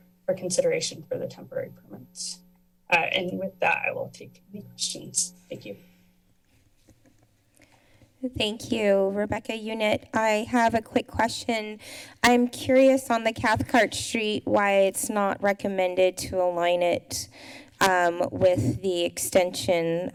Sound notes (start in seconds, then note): 6.0 pause